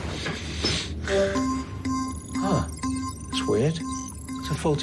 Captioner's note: alarm pinging